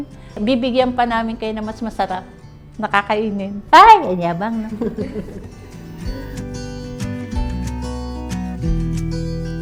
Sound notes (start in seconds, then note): 4.7 chuckles